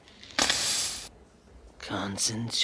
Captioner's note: hissing